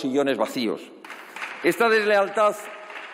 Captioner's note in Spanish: Aplausos